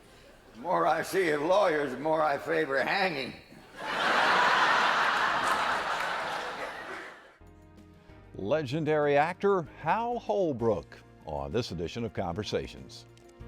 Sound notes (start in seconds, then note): 3.7 laughter